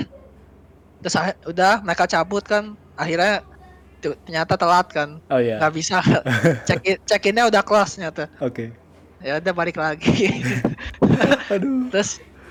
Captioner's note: laugh